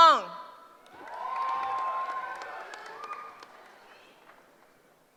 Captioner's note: cheering